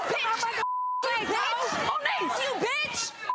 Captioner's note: screaming and arguing